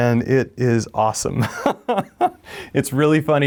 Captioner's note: laughs